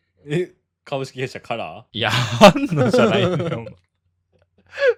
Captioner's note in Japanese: 笑い